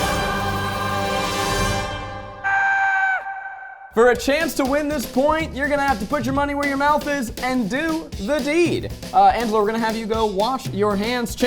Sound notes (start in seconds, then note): 0.0 dramatic music; 2.4 person screaming